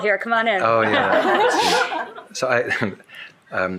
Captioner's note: shared laughing